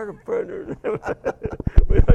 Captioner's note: both laugh